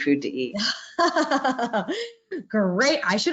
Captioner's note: laughing